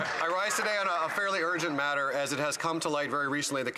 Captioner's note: some Applause